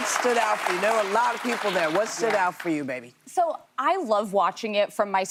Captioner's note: applause